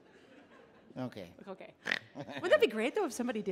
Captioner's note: audience laughing; laughs; snorts